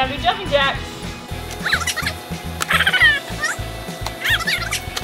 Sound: sped up audio

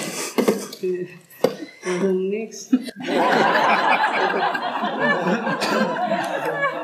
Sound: laughing

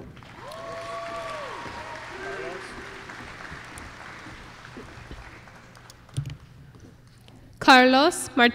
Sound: applause

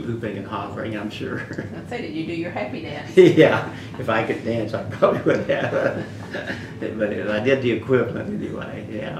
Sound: laughs; laughs

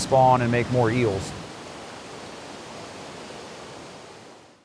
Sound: sound of water rushing over dam

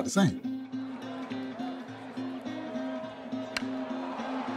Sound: crowd cheering

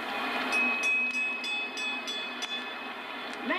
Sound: bell dings

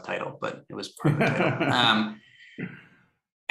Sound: laughter

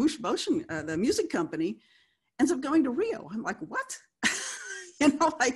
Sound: laughs

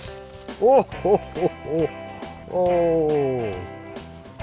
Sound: chuckling

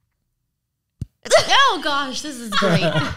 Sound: slapping sound

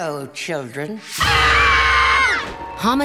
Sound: screaming

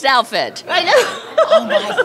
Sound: laughter

